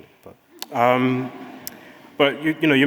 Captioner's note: audience laughing